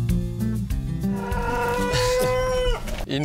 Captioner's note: A rooster crows